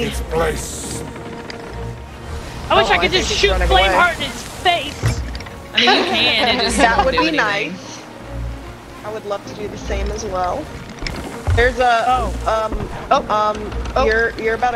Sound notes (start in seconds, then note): 5.7 laugh